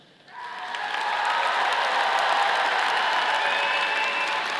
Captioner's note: audience applauding